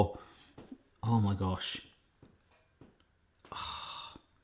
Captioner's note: sighs